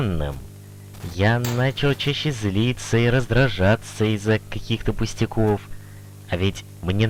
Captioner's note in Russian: На фоне упала ручка